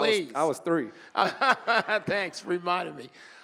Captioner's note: moderator laughing